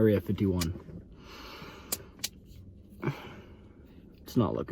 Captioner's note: breathes deeply